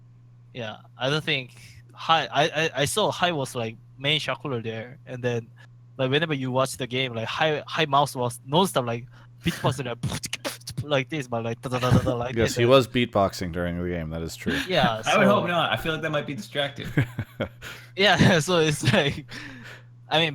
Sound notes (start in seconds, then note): 9.9 beatboxes; 16.8 chuckles